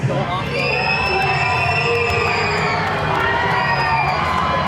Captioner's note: crowd cheering